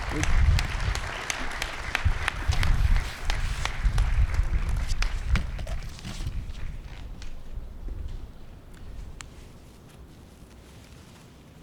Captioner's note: applause